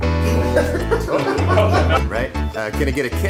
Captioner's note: all laugh